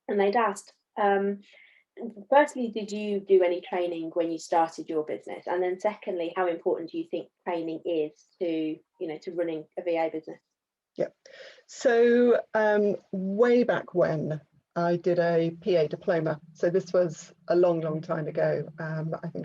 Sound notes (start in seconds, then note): none